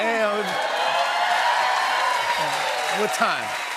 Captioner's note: cheers and applause